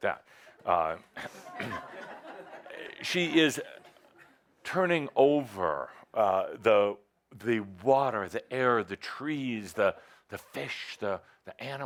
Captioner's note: some laughter